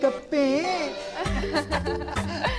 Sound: giggling

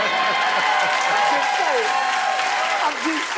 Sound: cheering

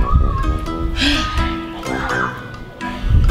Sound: sighs

